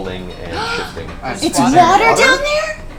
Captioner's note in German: keucht auf